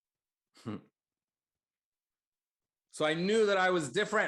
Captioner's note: chuckles slightly